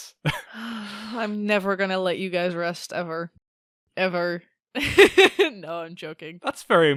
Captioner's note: big big sigh; laughs